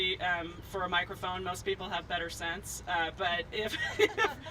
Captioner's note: laughs